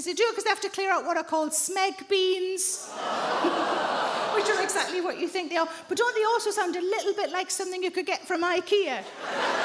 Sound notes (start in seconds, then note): 3.1 audience groaning; 9.0 audience laughing